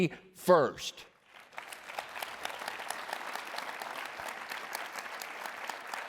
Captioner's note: applause